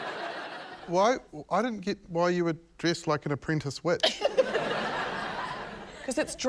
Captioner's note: laughter